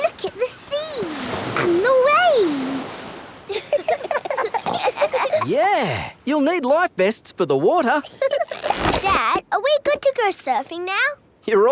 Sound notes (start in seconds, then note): 3.4 giggling